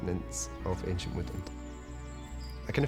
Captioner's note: birdsong